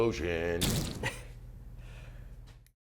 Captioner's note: peach explodes